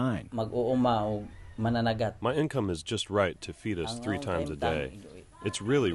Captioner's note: through translator